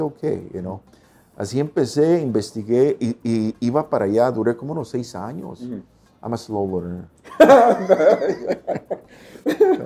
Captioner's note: risas